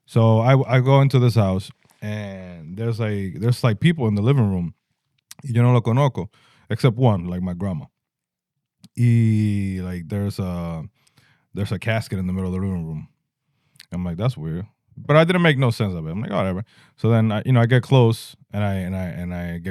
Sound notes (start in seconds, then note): 5.8 speaking In Foreign Language